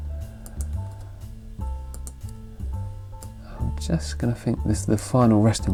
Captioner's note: mouse clicking